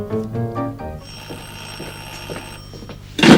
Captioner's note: the telephone rings